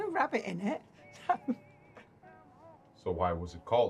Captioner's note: laughs